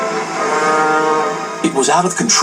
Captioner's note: Old Tramp Steamer's Honk